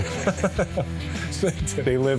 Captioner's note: laughter